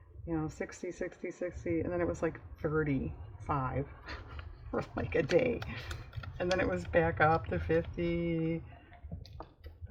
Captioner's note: laughs